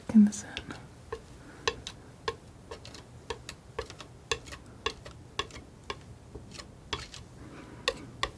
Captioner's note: tapping